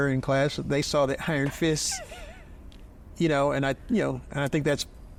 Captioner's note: chuckles